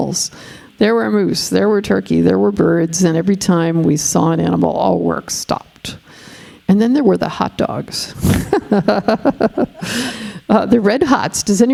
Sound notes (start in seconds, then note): 8.2 laughing